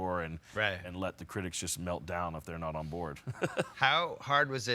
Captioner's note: chuckles